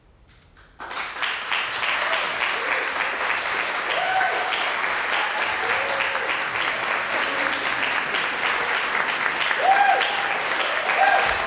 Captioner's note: applause